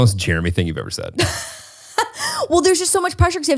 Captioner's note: laughs